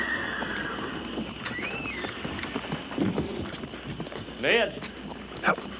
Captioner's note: horse neighs; door creaks